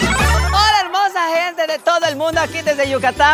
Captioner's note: in a thick yucatecan accent